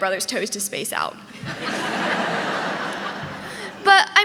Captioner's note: audience laughing